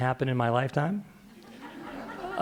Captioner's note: laughter